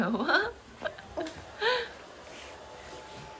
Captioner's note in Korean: 드라이기 소리 on